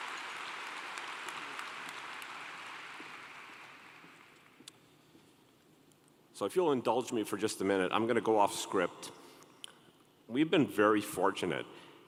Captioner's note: applause